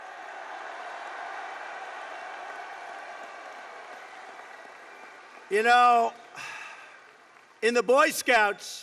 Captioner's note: applause